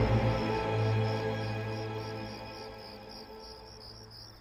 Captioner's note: crickets chirping